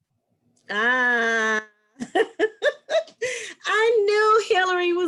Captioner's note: laughs